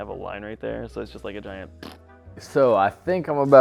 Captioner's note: tongue trills